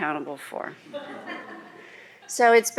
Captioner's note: laughter